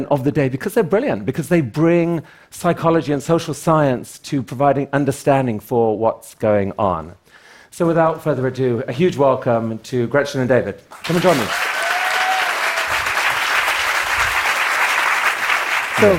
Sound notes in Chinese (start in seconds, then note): 10.9 Applause; 11.0 觀眾掌聲